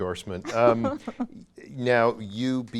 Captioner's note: laughing